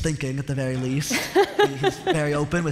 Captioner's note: laughter